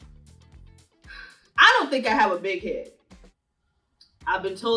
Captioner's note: sighing